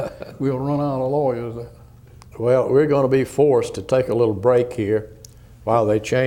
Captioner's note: laughter